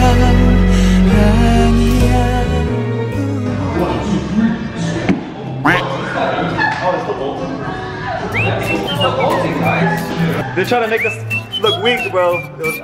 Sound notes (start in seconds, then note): 5.6 duck quacking; 8.0 comedic music